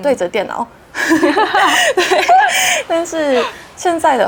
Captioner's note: chuckles